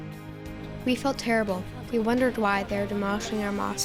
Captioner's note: through translator